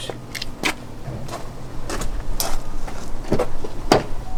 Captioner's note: footsteps